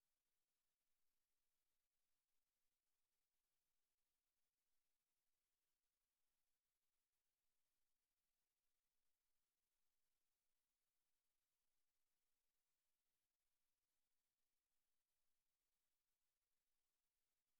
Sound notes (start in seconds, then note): none